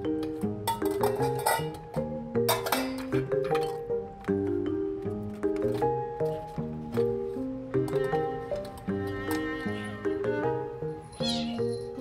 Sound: bowls clink

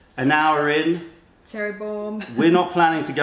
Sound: laughter

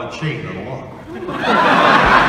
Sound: audience laughing, applauding

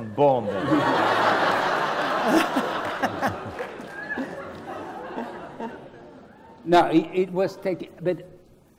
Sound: laugh

